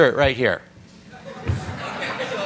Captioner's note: audience laughs